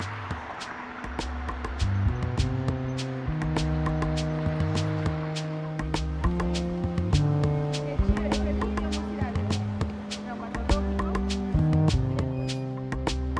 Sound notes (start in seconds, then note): 7.6 street bustling